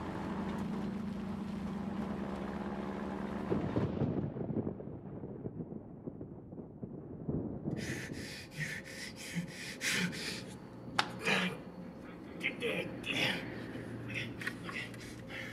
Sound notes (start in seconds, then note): 3.1 thunder rumbles; 7.7 gasping; 11.1 grunting; 13.9 whispers in English